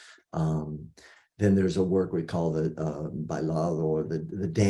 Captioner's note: non-english speech